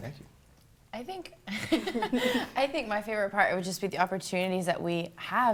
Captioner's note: laughter